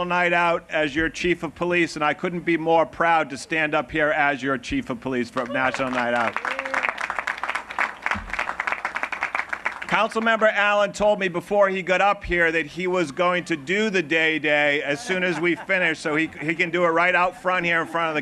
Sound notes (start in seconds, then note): 5.3 applause